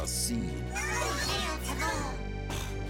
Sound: Bongolalas chanting

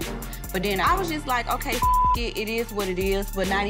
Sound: beep

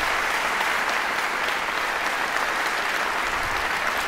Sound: applause

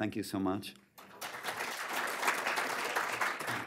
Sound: applause

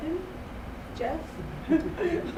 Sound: chuckles

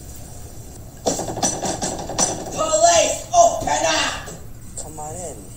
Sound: police bangs on door

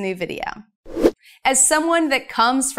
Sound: air whooshing

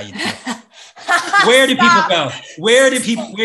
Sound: laughs

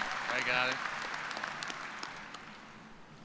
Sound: cheers and applause

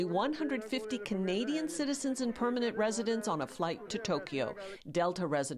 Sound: yelling

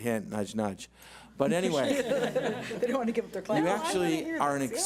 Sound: laughs

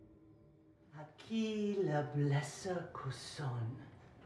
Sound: chanting in foreign language

